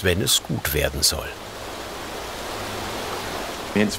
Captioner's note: hissing